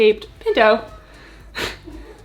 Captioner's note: cat meowing